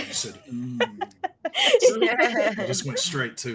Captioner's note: laughing